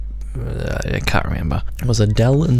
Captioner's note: stutters